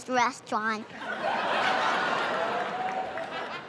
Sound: laughter

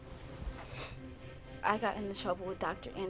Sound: somber music; Bianca sniffles

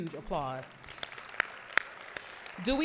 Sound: applause

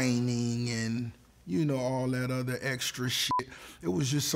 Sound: beep

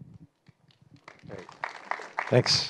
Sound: applause

